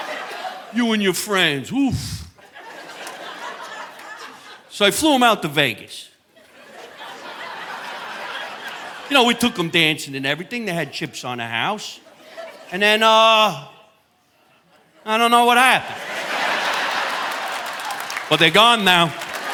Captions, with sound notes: You and your friends, woof." (audience laughing) So I flew 'em out to Vegas. (audience laughing) You know, we took 'em dancing and everything. They had chips on the house. And then, uh, I don't know what happened. (audience laughing) But they're gone now